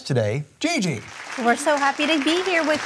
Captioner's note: applause